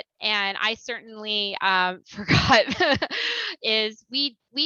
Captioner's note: laughter